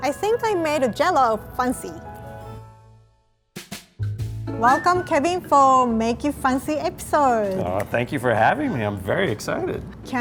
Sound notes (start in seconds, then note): none